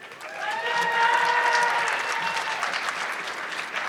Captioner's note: audience clapping